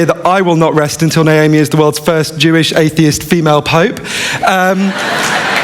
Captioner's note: laughter